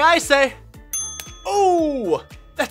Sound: ding

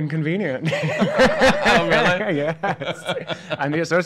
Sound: laughing

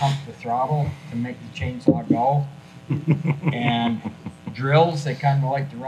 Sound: folks chuckling

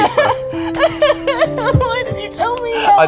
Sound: crying

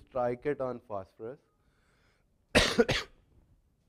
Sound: cough

